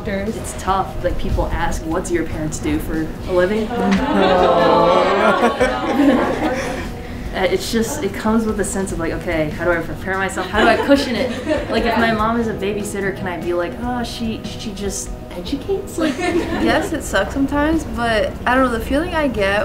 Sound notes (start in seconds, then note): 10.4 laugh; 16.0 laugh